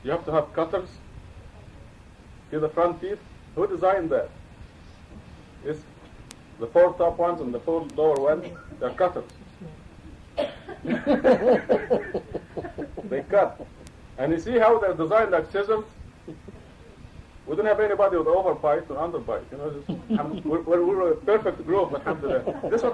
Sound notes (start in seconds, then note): 10.7 laughter